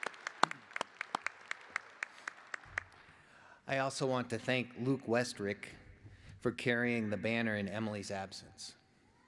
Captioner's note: applause